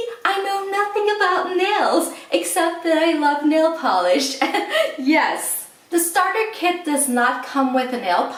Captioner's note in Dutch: lacht